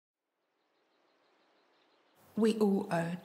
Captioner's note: birds chirping